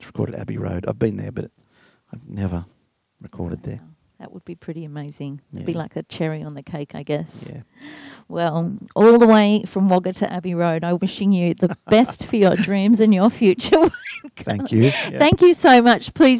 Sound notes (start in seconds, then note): 14.1 laughs